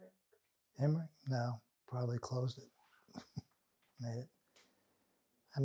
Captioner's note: laughing